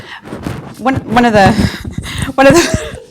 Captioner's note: laughs